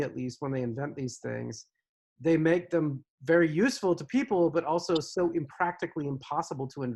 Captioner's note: none